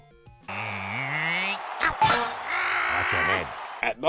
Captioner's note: Waluigi groaning